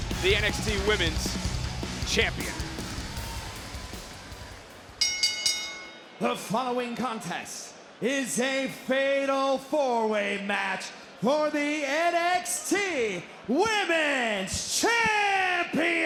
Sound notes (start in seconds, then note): 5.0 bell rings